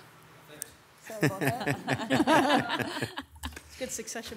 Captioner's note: members laughs